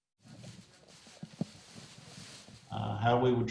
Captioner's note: paper rattling